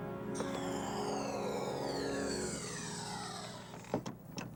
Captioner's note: door whooshing